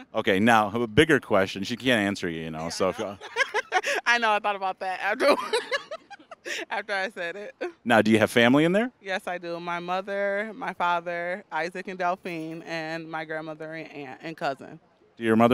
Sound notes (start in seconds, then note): 2.6 laughing